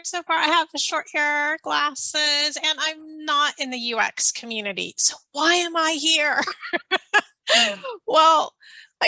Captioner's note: laughing